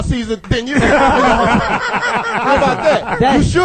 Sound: all laugh

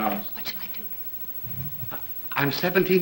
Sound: whispering

